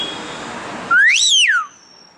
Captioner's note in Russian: птичий крик